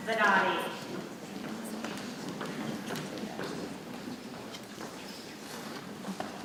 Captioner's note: people chattering softly